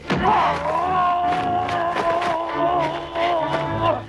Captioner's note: Hundra grunts; Torente shouting